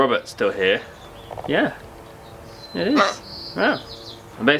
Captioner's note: squawk